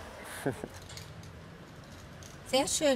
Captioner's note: he laughs quietly